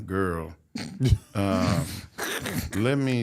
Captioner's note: host and guest laugh